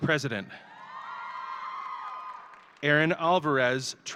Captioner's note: audience cheering